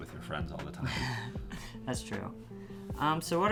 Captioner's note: laughs